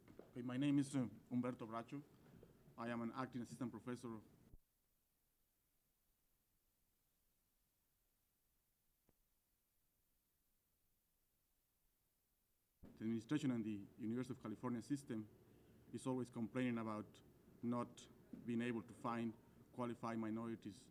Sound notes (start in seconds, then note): 4.1 silence